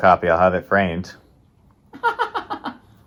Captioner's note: chuckle